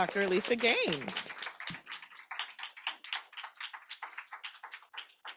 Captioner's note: applause